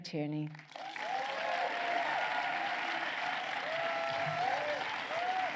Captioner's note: crowd cheering